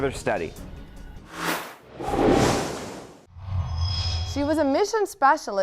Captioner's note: sound Effects